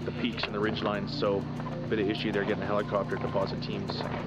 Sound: voiceover

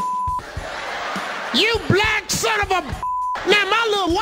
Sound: beep; audience laughing; beep

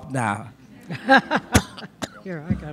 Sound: audience laughs

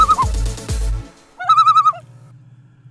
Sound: loon call

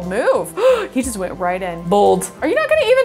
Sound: gasps

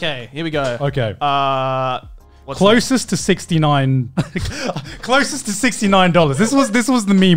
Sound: laughs

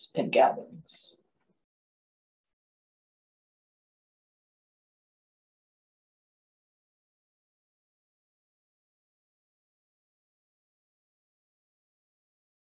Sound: silence

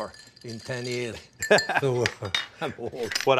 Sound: Ming laughs

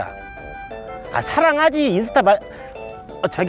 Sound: the 5th telephone bell

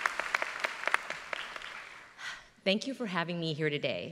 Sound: applause

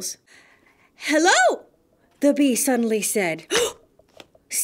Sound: gasp!

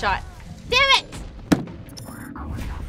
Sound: bangs table

